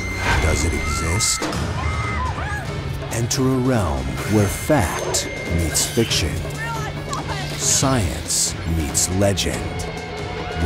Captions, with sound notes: [ WOMAN SCREAMING ] ENTER A REALM WHERE FACT MEETS FICTION... IT'S REAL! I SAW IT! ...SCIENCE MEETS LEGEND.